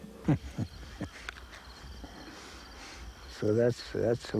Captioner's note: chuckles